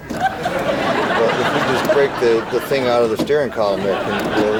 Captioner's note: audience laughing